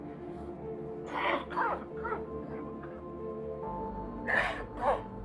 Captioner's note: Markus coughing